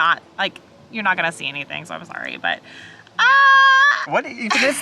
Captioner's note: exclaims